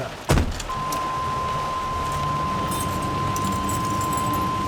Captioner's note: van door creaking open; van ignition dinging